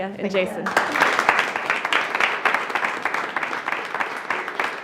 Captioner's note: attendees applauding